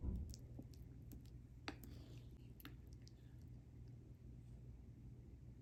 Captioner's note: the squish sound from the curry oatmeal